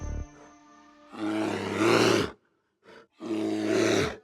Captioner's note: bear growls